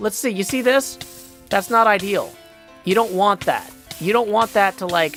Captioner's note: burning + damage noises